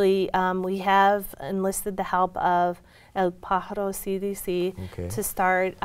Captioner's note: speaks in foreign language